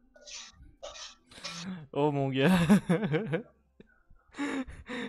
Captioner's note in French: rires